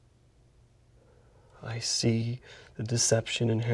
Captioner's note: none